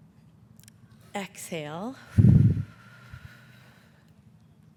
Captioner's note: exhales